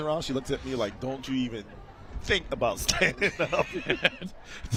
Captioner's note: laughter